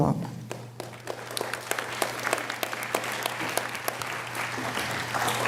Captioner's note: audience applauding